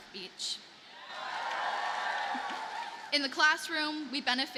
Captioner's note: audience cheers and applauds